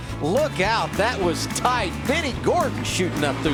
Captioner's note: engine Sounds